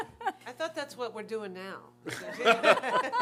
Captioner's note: laughter